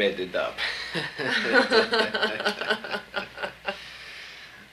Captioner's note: both laugh